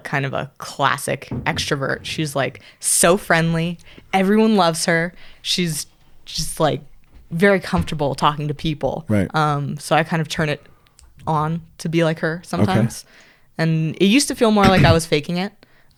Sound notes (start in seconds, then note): 10.9 finger snap